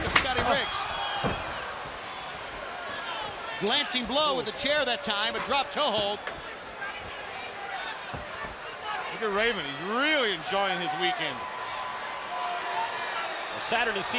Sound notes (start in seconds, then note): 6.4 crowd chatter